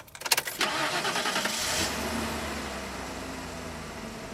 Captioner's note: car revs